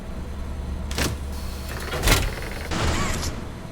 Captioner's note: gun fires